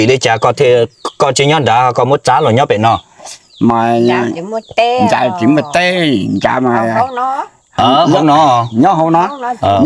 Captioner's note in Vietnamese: khịt mũi